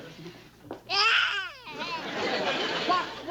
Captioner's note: Stanley cries